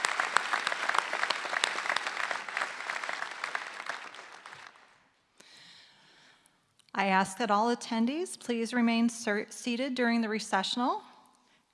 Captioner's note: applause